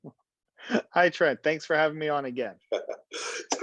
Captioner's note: laugh